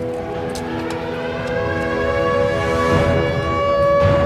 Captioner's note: sirens wailing